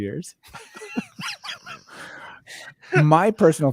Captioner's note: both laughing